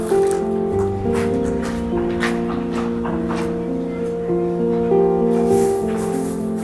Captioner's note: queaky